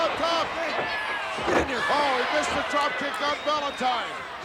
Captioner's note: applause